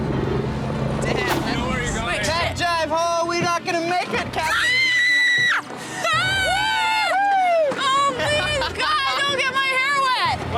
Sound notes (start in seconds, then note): 4.6 screaming; 6.0 cheering